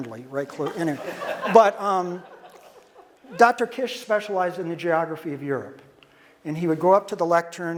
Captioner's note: audience laughter